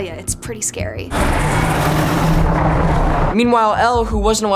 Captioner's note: roaring